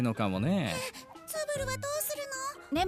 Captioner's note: quietly